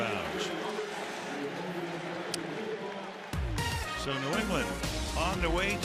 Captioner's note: pa announcement